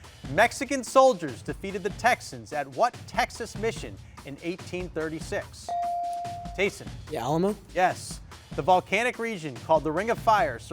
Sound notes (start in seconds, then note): 5.7 bell chiming